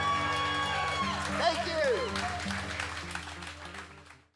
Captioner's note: audience cheers and applauds